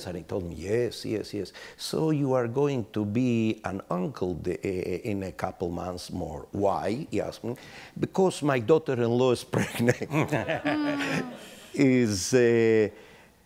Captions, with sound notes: and he told me, yes, yes, yes, so you are going to be an uncle in a couple months more, why, he asked me, because my daughter in law is pregnant. (laughing)